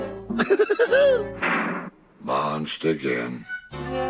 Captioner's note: laughs; bonk